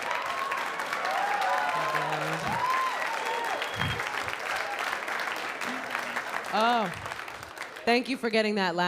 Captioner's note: applause